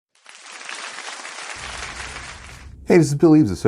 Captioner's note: applause